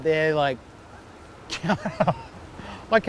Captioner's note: laughs